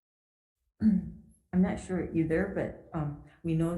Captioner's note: clears throat